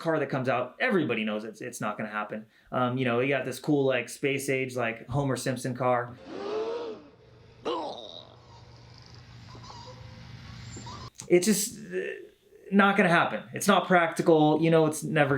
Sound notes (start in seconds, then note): 6.2 audience gasps; 7.6 gulp